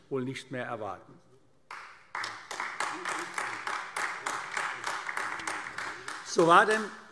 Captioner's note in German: Beifall AfD